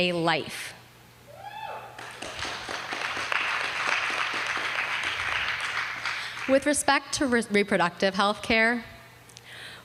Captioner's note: applause